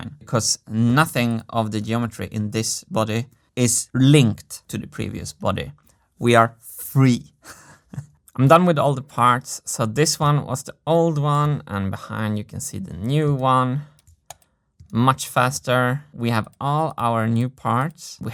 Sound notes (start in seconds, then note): 7.3 chuckles; 13.9 mouse click